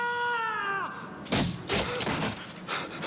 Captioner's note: thud